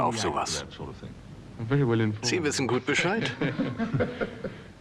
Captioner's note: laughs